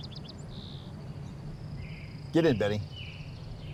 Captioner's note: birds chirping continues